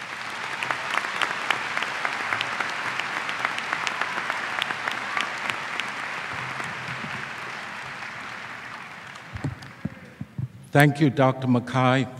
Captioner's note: applause